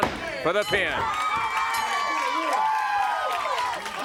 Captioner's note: crowd cheering